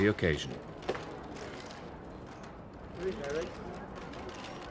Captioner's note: cameras clicking